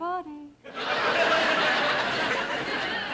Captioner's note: audience laughing